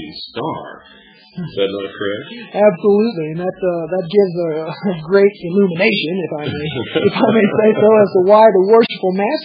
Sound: laughs

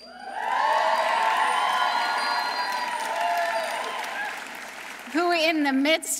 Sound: audience cheering; audience applauding

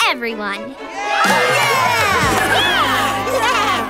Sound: cheering

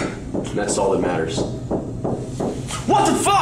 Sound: knocking

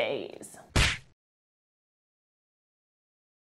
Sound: slap

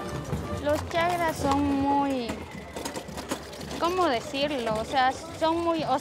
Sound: speaking in foreign language

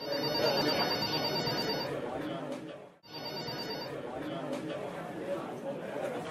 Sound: phone ringing, office noises

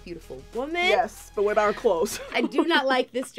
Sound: laughter

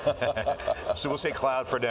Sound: laughing

